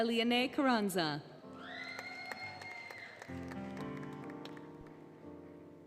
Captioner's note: applause, Cheering, Music